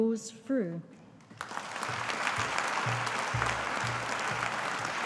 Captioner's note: audience applauding